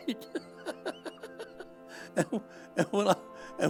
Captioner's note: chuckling